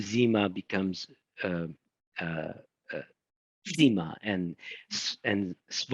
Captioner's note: speaking in foreign language